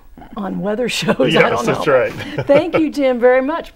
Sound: laughing

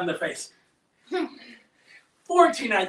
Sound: giggles

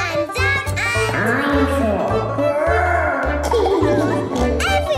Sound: laughing

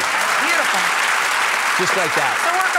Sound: audience clapping

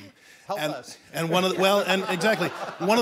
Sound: group laughing

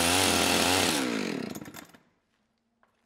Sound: engine stops

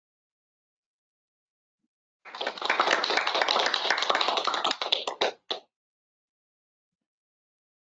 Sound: applause

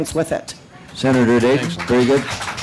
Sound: applause

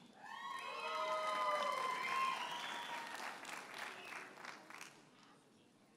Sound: audience cheers and applauds

